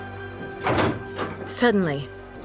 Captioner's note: door opens